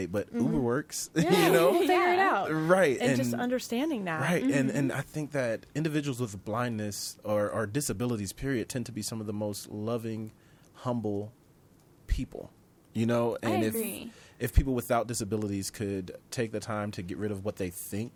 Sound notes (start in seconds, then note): 1.2 laughing